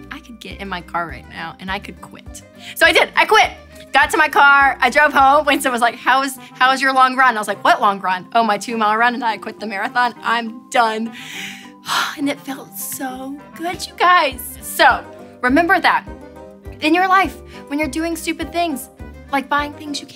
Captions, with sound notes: I can get in my car right now and I could quit. So I did, I quit, got to my car, I drove home Winston was like, how is, how was your long run? I was like what long run? Oh my two mile run and I quit the marathon, I'm done. (exhales) And it felt so good you guys. So remember that in your life, when you're doing stupid things, like buying things you